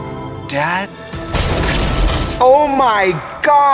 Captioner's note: gun fires